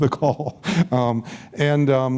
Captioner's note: laughs